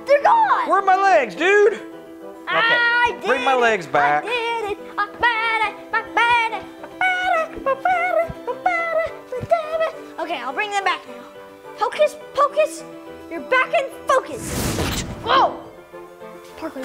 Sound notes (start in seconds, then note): 14.4 magic explosion